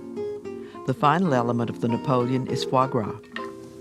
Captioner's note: voiceover